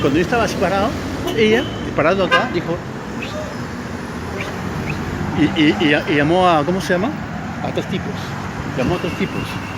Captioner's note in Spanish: silvido